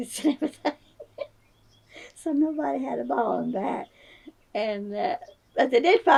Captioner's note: laughs